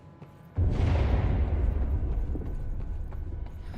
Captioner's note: distant explosion